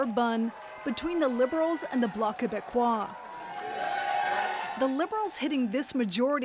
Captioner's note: cheers and Applause